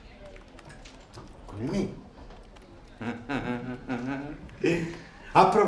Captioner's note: fake laughing